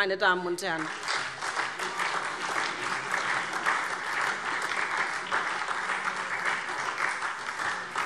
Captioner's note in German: Beifall SPD